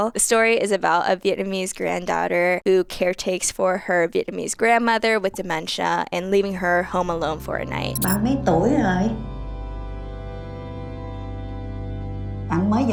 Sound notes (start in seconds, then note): 8.2 grandmother speaking in foreign language; 9.5 calm instrumental music; 12.5 grandmother speaking in foreign language